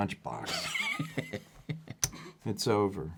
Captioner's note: laughs